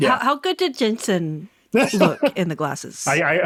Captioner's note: laughing